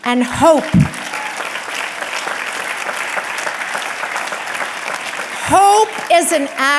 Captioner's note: audience clapping and cheering